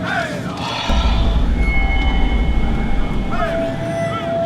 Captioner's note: voices chanting